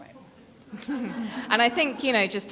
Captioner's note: people laughing